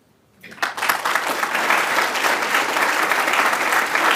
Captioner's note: applause